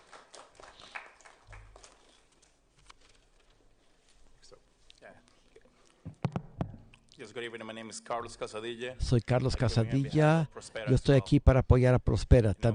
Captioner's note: applause